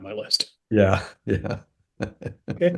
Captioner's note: laugh